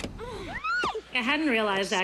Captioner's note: screams